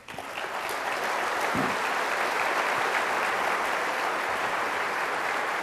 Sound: applause

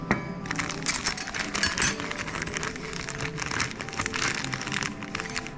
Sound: paper ASMR

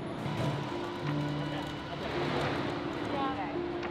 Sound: bus whirring; assorted chattering

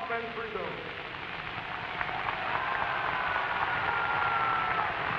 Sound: applause

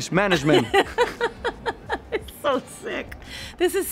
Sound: laughs

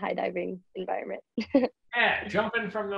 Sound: laughs

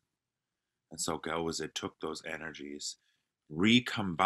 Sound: non-english speech

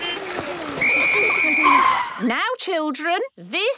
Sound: whistle blowing

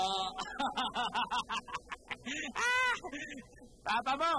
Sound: laughs

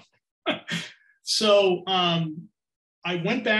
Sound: laughing

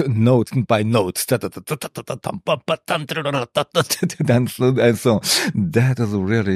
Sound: mimics sound

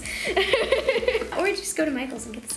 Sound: laughing

